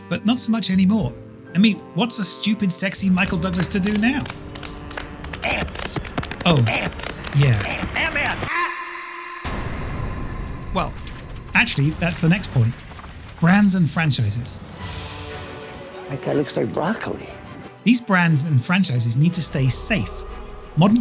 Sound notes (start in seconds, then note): 3.0 keyboard clacking; 8.2 duck quacking; 9.5 dramatic music; 14.9 upbeat music